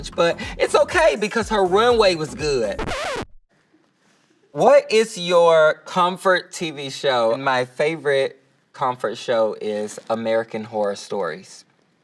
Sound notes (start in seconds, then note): 3.1 record scratching